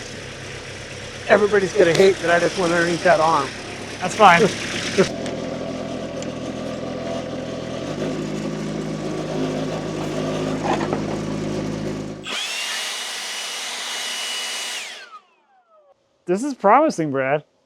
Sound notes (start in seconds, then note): 6.9 engine rumbling; 12.6 leaf blower whirring